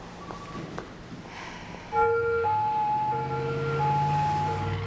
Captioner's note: siren wailing